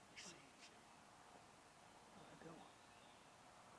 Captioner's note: whispering